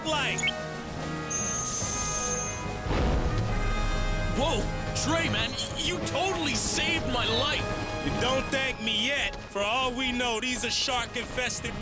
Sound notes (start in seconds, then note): 2.8 laser beam hums